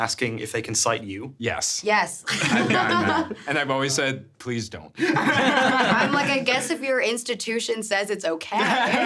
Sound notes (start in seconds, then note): 2.3 laughing; 5.0 everyone laughing